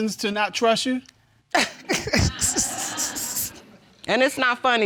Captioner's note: laughing